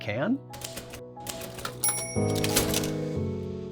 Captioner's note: typewriter dings